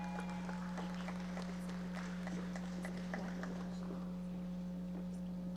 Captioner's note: audience members applauding